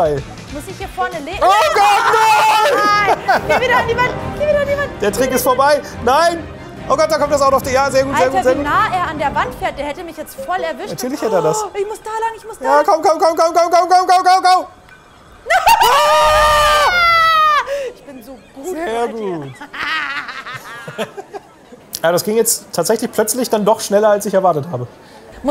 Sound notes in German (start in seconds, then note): 19.6 Triumphales Kichern